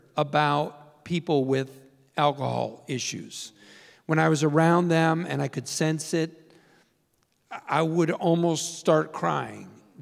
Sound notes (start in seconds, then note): none